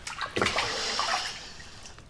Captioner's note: exhales